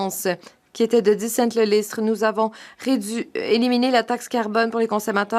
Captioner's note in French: voix de l'interprète